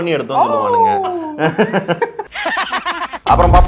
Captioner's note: laughter